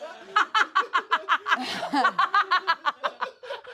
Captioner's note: everyone laughs